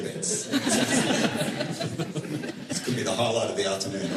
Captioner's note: laughter